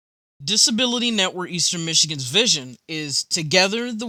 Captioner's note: voiceover